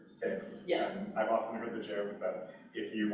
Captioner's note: laughing